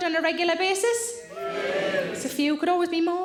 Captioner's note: audience cheering